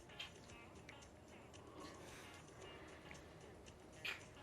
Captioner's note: lips smacking